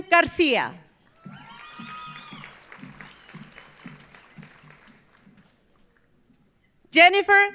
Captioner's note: audience applauding; audience cheering